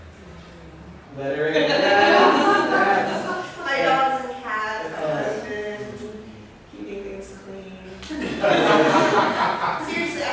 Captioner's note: laughter